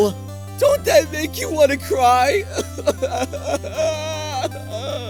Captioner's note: sob